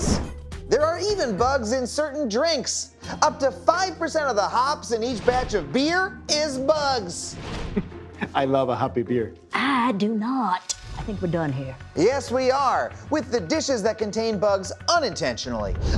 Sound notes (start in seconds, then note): 7.7 chuckling